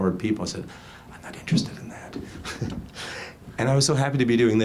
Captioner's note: laughs